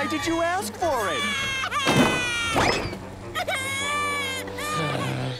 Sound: crying

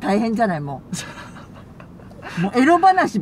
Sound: laughs

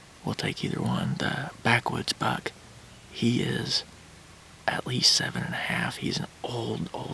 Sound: whispering

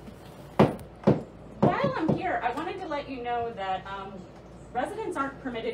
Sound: hammering

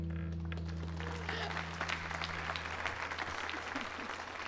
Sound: audience applauds

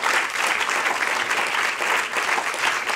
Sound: applause

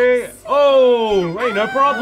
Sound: cheers

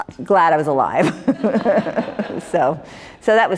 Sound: laughter

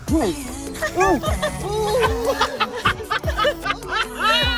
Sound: laughing

